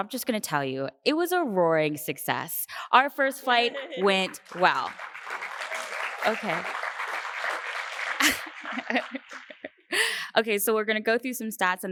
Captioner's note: applause